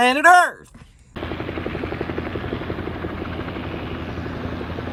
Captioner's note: helicopter noises